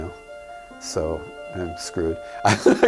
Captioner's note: laughs